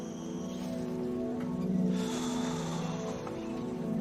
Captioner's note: sighs